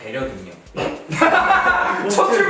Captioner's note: pffft